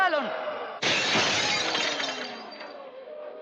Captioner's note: glass shattering